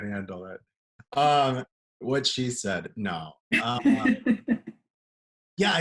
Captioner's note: laughter